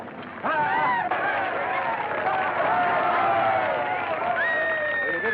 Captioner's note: cheering